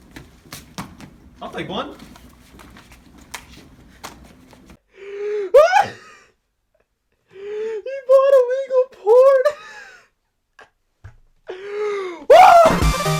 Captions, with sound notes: - I'll take one. - (laughs) He bought illegal porn. Woo.